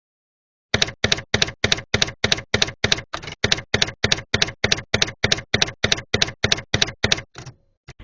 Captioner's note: typewriter keys clacking